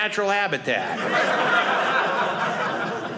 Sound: audience laughing

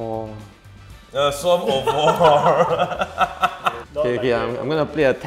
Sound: laughs

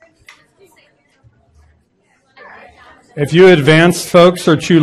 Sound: voices chatting

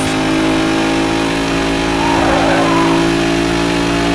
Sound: engine roaring

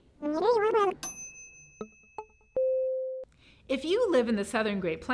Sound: dinging

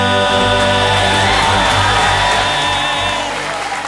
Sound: cheers and applause

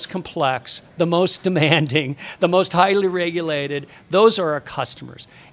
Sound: chuckling

